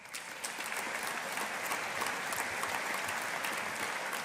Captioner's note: audience applauding